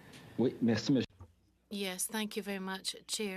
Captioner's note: speaking french